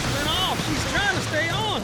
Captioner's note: huge splash